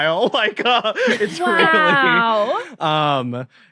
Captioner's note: laughs